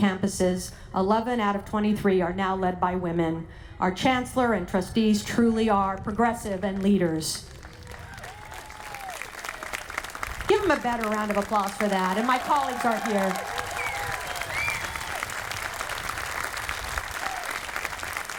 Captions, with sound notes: campuses, 11 out of 23, are now led by women. Our Chancellor and Trustees truly are progressive and leaders. (audience applauding) Give them a better round of applause for that. And my colleagues are here. (audience applauding)